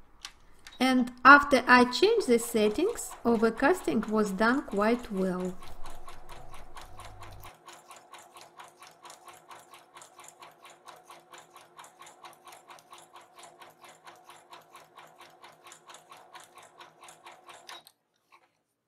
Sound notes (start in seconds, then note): 6.4 sewing machine humming